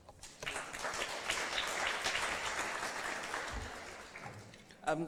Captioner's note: applause